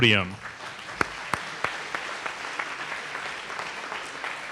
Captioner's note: audience applauding